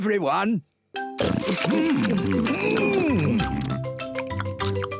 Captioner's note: all chomping